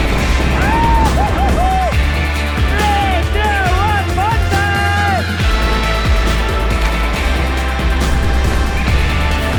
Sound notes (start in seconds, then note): 3.2 man shouting; 5.9 upbeat electronic music